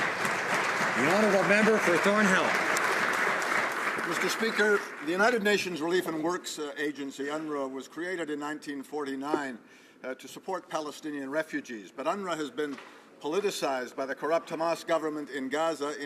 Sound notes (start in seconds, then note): 3.6 some Applause